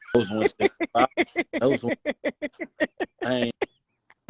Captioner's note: laughing